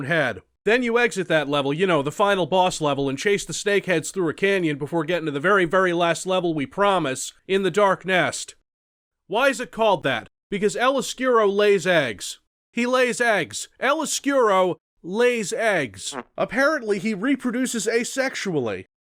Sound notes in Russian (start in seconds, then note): 16.0 пук среньк